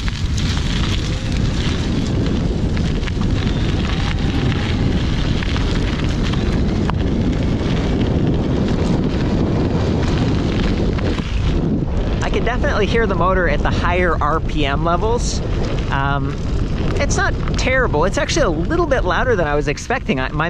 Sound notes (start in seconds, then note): 1.4 wind rustling; 5.1 motor whining